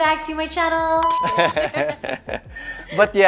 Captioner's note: laughs